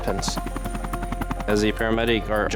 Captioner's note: sound of helicopter